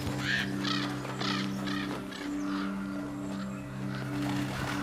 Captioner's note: bird cawing